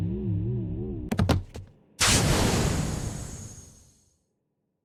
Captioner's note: Dracula thudding